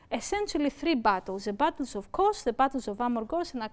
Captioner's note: speaking greek